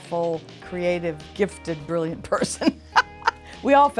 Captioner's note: laughing